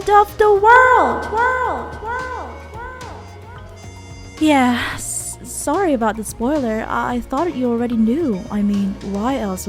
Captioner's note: echoes